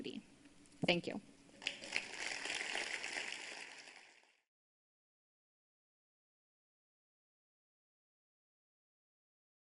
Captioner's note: applause